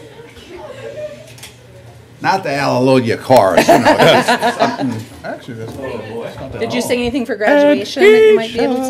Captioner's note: laughter